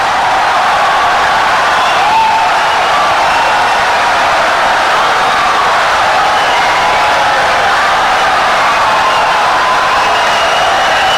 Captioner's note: wild applause and cheering for 17 seconds